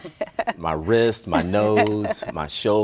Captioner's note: laughing